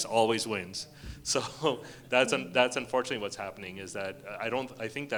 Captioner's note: chuckles